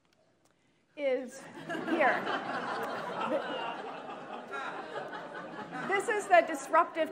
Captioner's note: attendees laughing